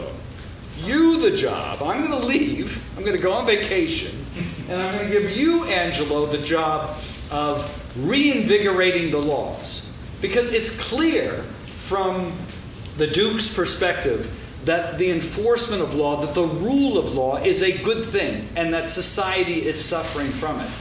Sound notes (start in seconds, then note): 3.9 laughing